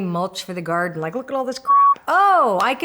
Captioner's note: beep